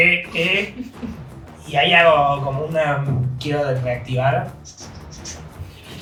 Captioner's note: activation sound